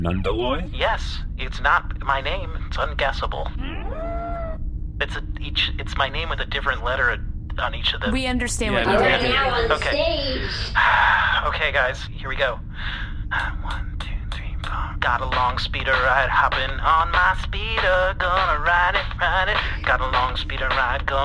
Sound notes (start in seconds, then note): 10.6 sighs